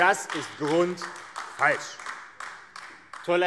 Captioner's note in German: Beifall AfD